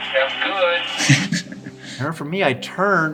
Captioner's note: laughing